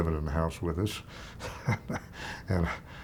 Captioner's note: chuckling